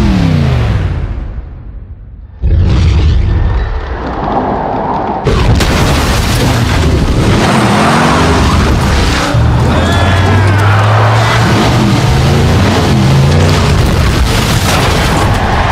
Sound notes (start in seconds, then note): 9.2 cheering; 14.8 crowd cheering